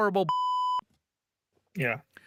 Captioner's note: beep